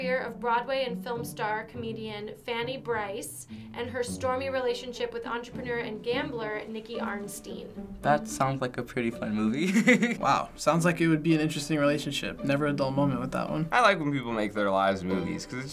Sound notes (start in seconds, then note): 9.6 laughs